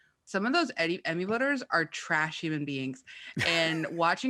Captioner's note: laughs